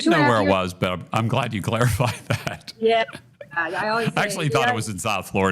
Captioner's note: chuckles